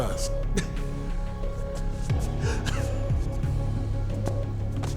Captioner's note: Faze laughing